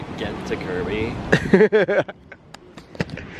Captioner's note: giggles